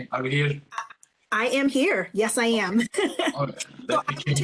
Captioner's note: chuckles